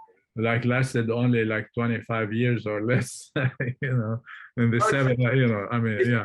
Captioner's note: chuckles